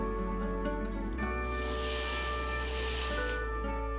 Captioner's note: curtain rings scrape